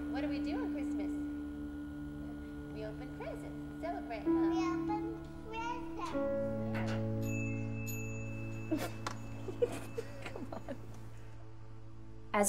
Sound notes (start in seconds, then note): 7.2 bell rings; 8.6 girl laughs